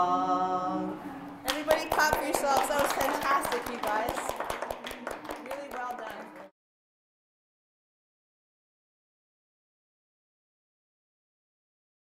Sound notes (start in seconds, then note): 1.4 clapping